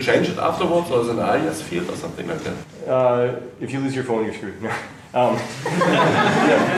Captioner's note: laughter